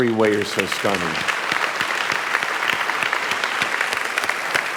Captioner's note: audience applauding